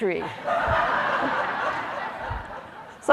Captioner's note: laughter